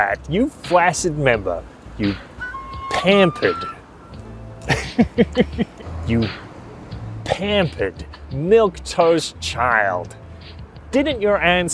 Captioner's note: laughs